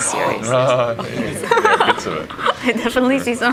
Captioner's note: laughs